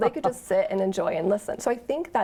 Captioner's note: chuckles